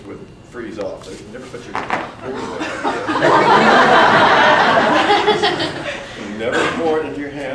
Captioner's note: audience gasps then laughs again